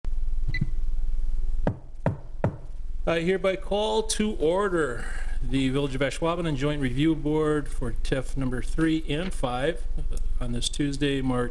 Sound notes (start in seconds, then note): 2.4 knocks